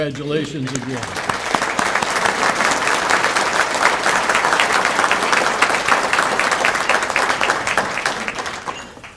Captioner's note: applause